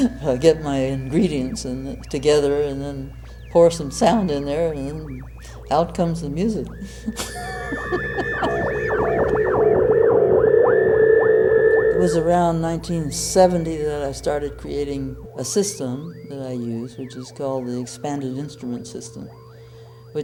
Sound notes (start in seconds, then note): 6.7 laughs